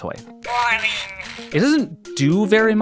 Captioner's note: Furby babbling